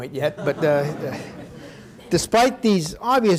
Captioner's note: audience laughing